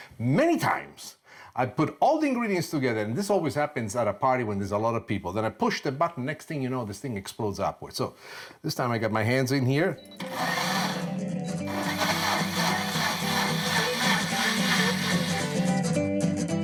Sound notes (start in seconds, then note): 11.6 blender whirs; 12.8 catchy instrumental music